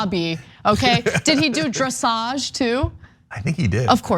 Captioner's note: laugh